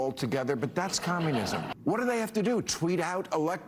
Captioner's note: laughter